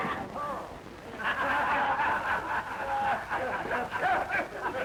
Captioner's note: laughter